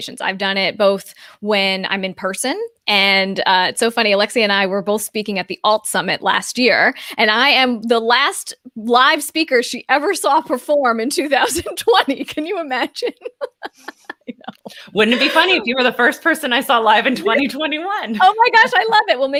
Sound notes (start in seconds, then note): 12.9 both laughs; 13.0 laughs; 17.7 chuckles